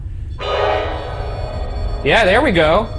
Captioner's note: dramatic music; device beeping